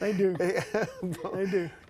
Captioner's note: laughter